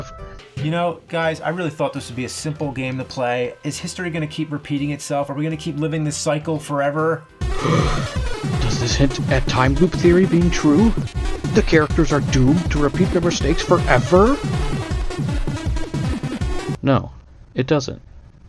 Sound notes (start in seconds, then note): 7.6 gasp!